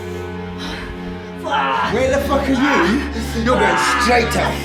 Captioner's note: Justin groaning